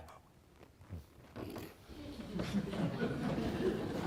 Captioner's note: laughing